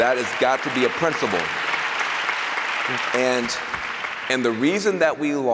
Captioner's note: applause